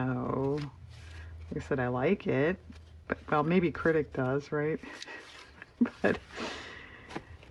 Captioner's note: laughs